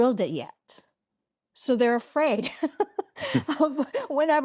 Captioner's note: chuckles